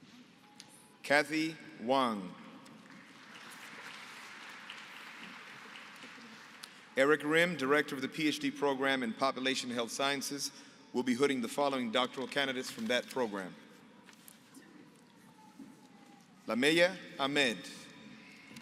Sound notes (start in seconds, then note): 2.7 applause